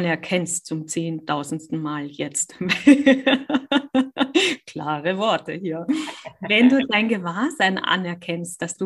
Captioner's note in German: lacht; lachen